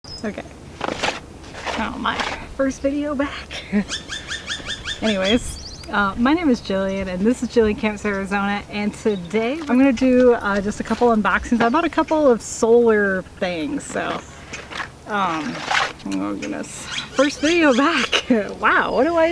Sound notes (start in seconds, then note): 3.6 laughs